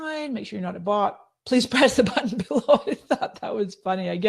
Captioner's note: laughing